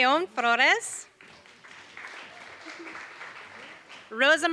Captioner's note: applause